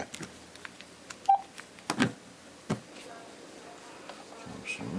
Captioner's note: phone bleeps